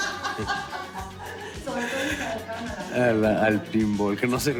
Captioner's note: distant laughter